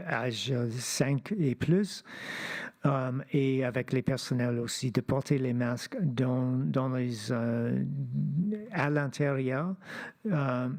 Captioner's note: speaking French